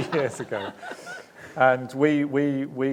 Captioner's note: laughing